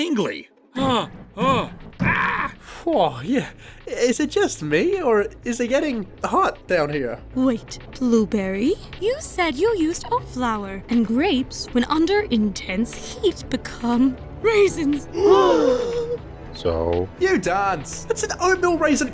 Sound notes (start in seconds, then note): 14.9 gasp